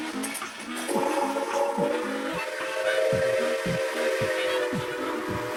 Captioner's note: toots signifying that the maniac has chosen their fate